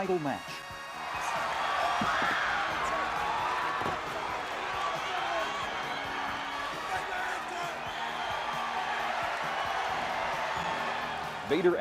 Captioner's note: crowd cheering